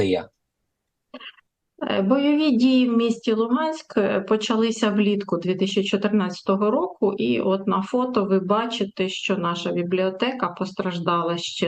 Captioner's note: foreign language